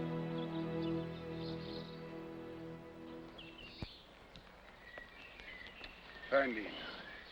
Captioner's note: birds chirping